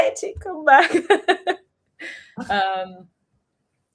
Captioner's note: laughter